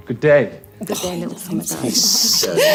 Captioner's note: laughing